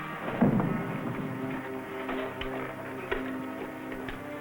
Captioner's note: body thudding